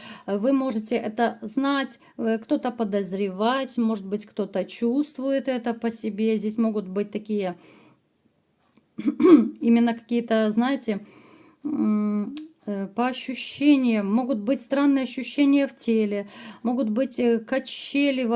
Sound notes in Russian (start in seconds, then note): 9.0 откашливается